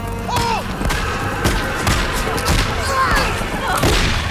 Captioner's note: gunshots